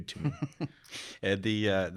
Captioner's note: chuckling